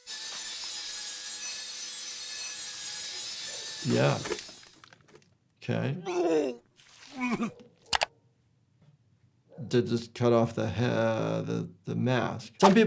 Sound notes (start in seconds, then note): 0.0 saw squeals; 6.0 cop gags and vomits